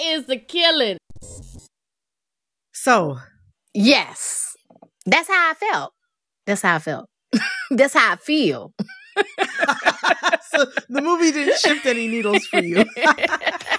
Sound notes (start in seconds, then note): 1.1 soundbite of electronic scratching sound; 8.8 laughter